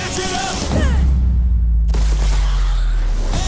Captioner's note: sound drops out and lowers in pitch